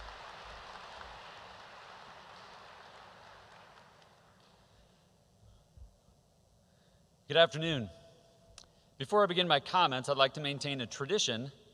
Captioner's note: applause